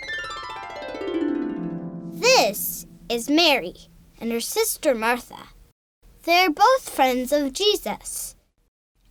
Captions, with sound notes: - [Voiceover] This is Mary, and her sister, Martha. They're both friends of Jesus.